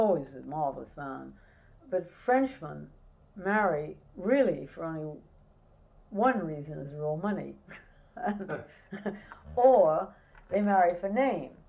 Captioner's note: laughter